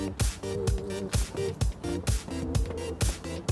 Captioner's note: footsteps